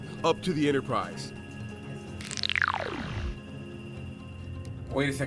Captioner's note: transportation sound